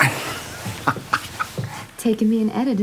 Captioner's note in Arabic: يضحك